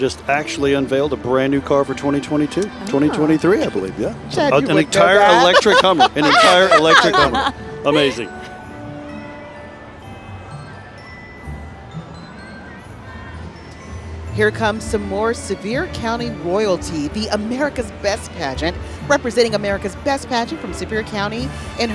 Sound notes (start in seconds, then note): 4.4 laughing; 6.9 holiday music